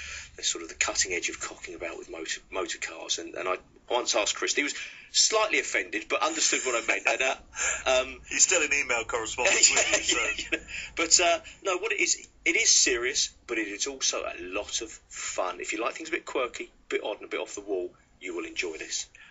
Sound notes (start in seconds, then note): 9.4 nervous laughter